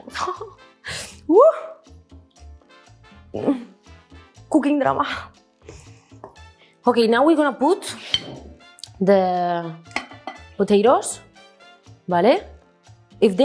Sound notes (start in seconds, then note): 0.1 chuckles; 1.3 whoops; 12.2 speaks in Spanish